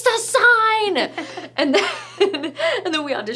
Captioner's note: laughing